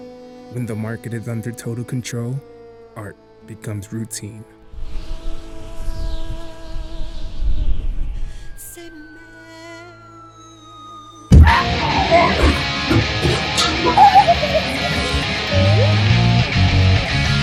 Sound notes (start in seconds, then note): 8.8 falling Slide Whistle